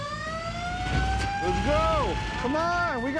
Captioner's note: siren blaring